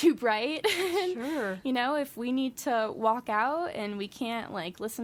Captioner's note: laughs